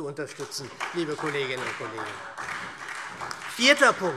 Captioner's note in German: Beifall SPD